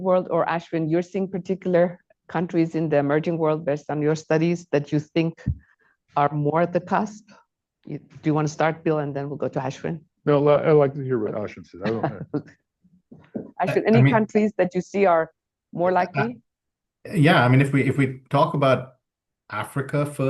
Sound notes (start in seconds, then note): 13.0 laughs